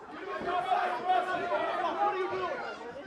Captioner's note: crowd cheering